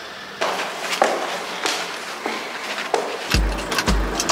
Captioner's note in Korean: 무거운 발걸음